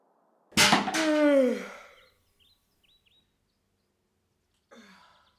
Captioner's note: loud yawn